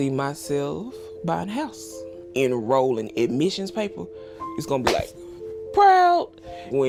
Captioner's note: claps